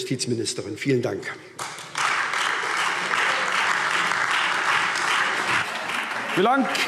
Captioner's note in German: Beifall SPD, Freie Demokraten und DIE LINKE